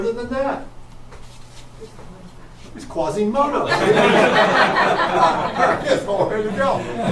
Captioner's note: audience breaks out in laughter